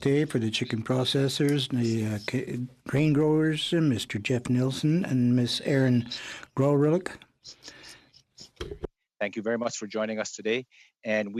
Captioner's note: speaking French